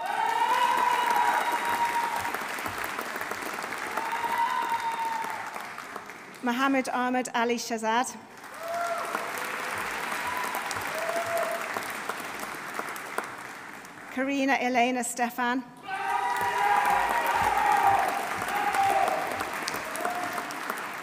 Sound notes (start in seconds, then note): 0.0 audience cheering; 0.0 audience applauding; 8.3 audience applauding; 8.5 audience cheering; 15.8 audience cheering; 15.9 audience applauding